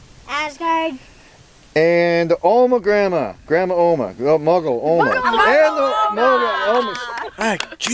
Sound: all yell

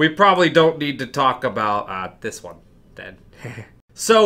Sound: nervous laugh

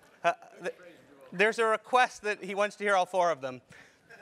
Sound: laugh

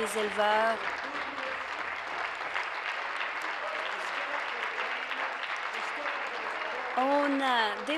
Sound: applause

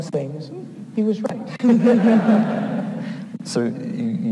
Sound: laughs

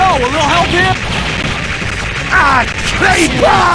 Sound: screams

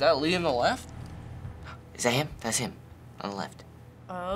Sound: gasps

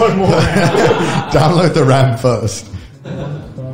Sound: group laughs

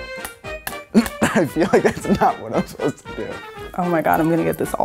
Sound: laughs

